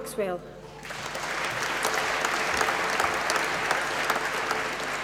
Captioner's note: applause